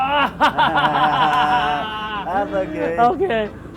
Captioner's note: laughs